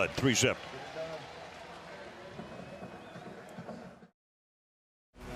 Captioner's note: pa announcement